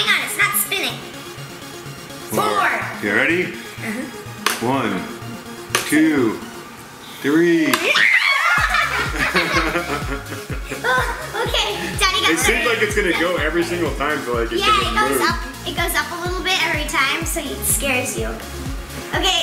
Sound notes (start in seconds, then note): 1.7 upbeat music; 7.8 screaming; 7.8 laughing